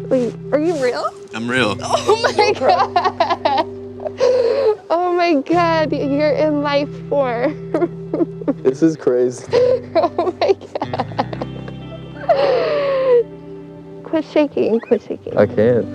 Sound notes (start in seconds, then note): 9.4 laughing; 12.8 reflective music